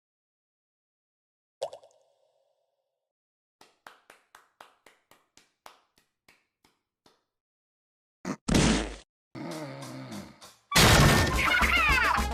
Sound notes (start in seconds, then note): 3.6 Only a single sanitised octoling applauds